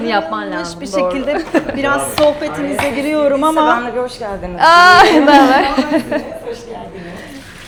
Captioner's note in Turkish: kahkaha; kahkaha